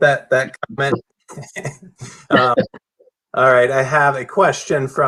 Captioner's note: laughter